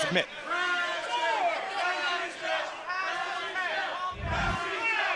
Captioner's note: crowd chatter